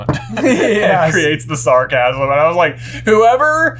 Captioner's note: laughing